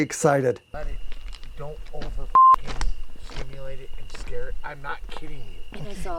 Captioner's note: beep